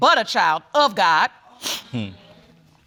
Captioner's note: sniffles